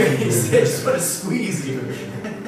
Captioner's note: laughing